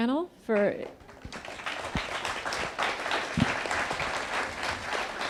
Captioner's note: attendees applauding